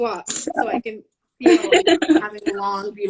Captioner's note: laughing